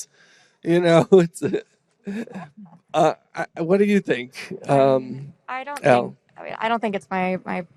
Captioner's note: laughs